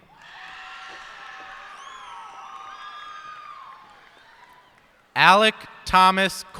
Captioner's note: cheers and applause